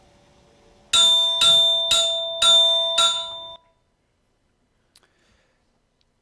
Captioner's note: Vibra-Tone clanking and resonating